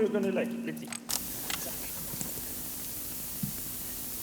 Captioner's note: cassette static starts